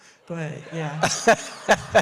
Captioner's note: audience Laughs